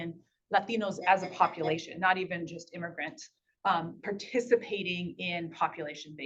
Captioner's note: beep beep beep beep